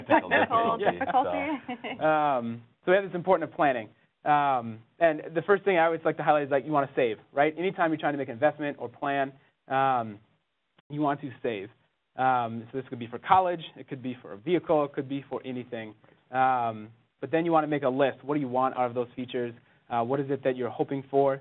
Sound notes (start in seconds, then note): 2.3 laughs